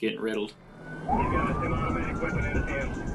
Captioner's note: sirens